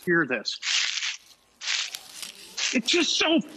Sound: leaves crunching

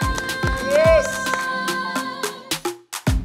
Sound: applause

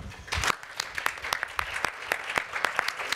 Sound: applause

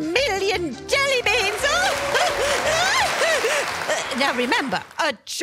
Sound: audience Cheering

